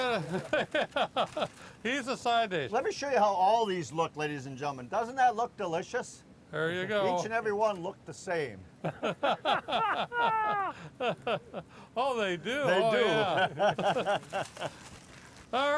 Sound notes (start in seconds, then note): 0.0 laughs; 8.8 men laugh